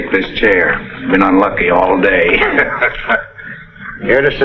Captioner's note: chuckles